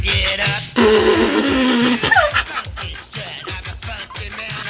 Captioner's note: laughing